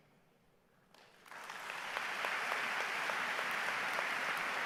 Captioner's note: everyone applauds